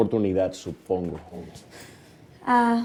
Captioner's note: sigh